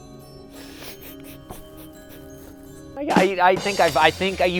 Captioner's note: laughs